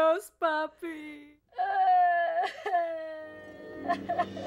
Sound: Veronica cries

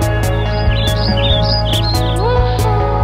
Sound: birds chirping alarm

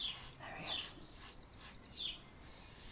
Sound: whispered

